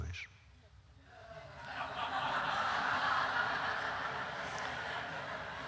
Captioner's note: laughter